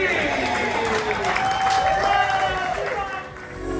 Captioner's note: crowd laughs and cheers